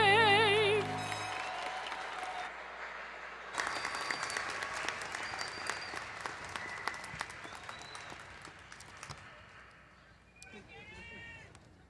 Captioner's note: applause